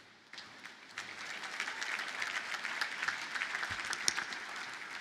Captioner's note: audience applauding